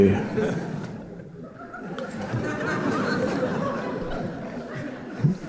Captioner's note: audience chuckling